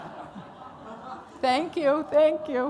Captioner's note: laughter